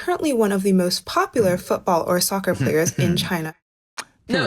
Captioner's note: chuckles